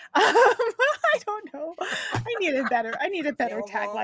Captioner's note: laughs